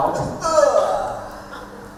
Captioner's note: belches